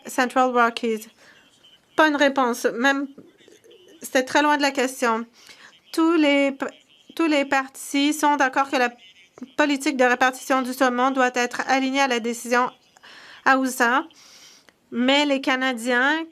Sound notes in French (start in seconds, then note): 4.8 voix de l'interprète